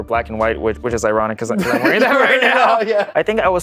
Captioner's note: laughter